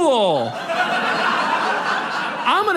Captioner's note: audience laughs